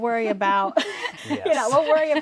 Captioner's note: laughs